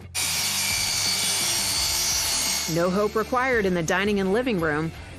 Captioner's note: sawing sounds